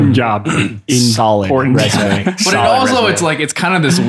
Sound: laughs

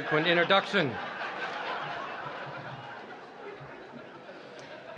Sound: laughter

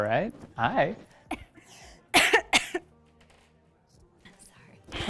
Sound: mom coughs

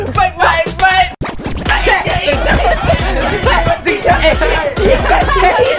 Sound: mimics the music played at a temple fair

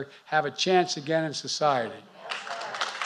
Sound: applause

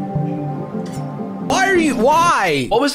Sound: suspenseful music; knife metal scraping

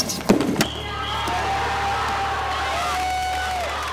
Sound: cheers

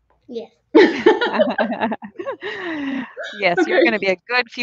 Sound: both laughing

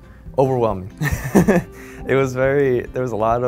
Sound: giggling

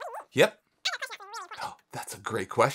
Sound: voice squeaking over phone

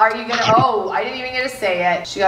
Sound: crunch

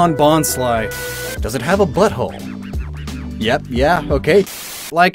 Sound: Static

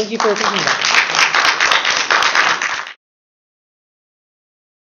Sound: applause

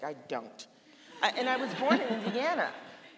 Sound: laughing; audience laughing

